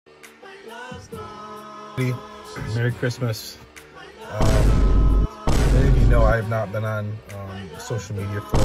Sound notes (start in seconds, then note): 5.4 loud vine booms